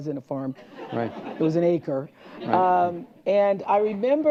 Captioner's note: laughter